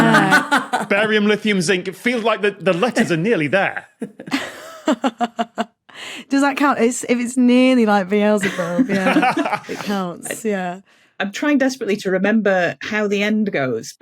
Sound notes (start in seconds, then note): 0.1 cackles; 4.8 guffaws; 8.4 laugh